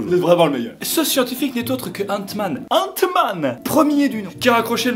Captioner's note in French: accent allemand